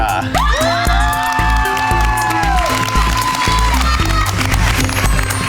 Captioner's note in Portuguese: Gritos